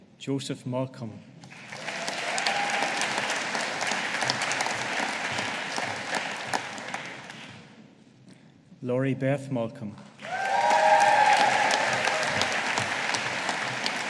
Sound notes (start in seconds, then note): 1.5 audience applauding; 10.2 audience applauding